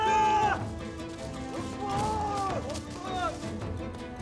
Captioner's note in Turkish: Bağırma sesleri